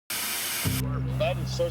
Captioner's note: static sizzling